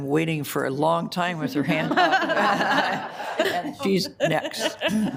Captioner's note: audience laughing